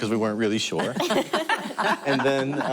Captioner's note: laughter